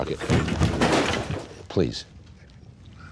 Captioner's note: desk clattering